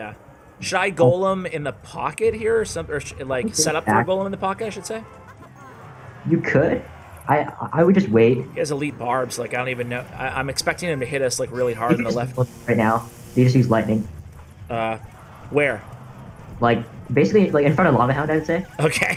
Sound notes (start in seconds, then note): 12.9 choppy audio; 18.4 laughs